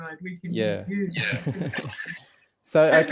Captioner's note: laughs